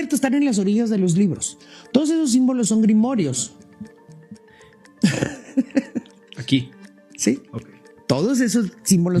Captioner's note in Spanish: risas